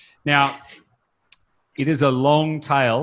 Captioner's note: laughs